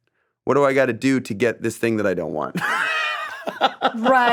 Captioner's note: laughs